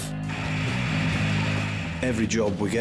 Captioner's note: boat engine roars